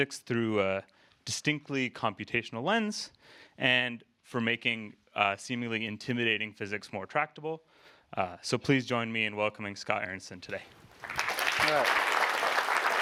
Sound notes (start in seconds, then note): 10.9 applause